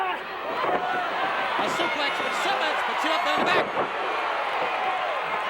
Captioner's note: audience drowning out announcer